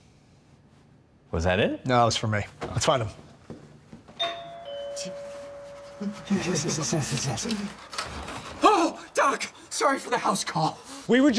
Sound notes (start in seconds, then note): 4.2 doorbell